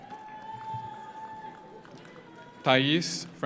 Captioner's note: audience cheers; audience applauds